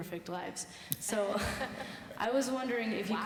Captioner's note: laughs